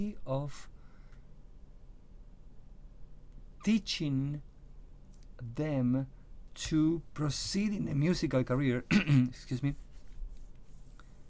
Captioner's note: clears throat